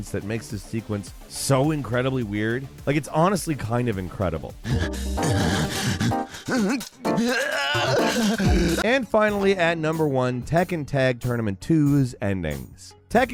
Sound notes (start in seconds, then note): 4.4 upbeat music; 4.6 gasping